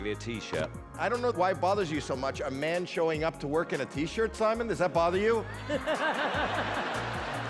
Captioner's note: laughter